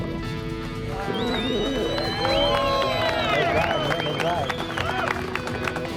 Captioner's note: cheers, applause